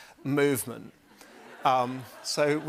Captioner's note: laughter